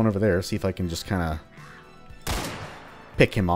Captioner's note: crack